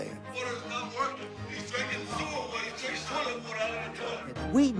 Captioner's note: background chatter